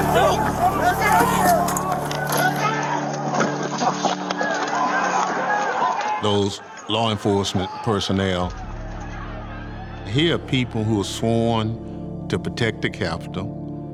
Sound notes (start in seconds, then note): 1.7 shouting continues on video